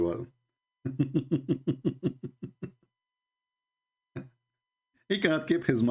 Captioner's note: Ketawa